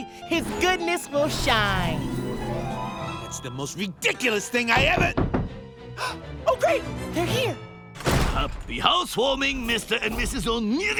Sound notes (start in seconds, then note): 4.7 knocking; 6.2 gasp